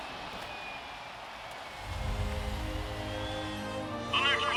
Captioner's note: hum of crowd cheering